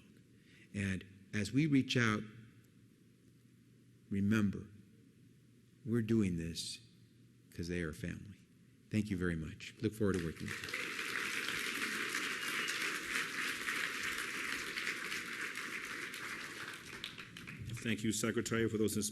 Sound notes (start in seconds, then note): 12.2 applause